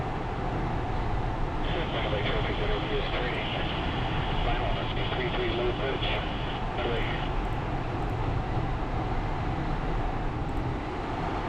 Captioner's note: radio: Traffic, RV- is turning Final 3-3, low approach